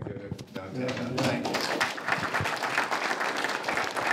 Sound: audience clapping

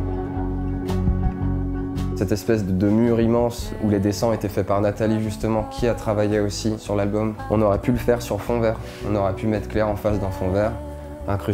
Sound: speaking in french

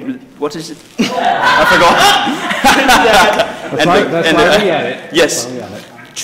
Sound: laugh

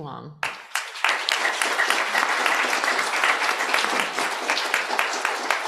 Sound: applause

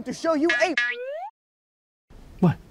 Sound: none

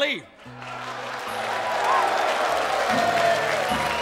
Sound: crowd cheering

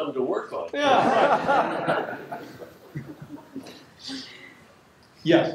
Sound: laughter

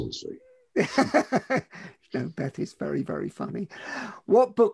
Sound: laughs

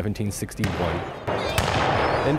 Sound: gunshots

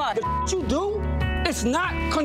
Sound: beep

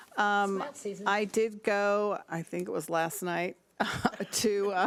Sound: laughs

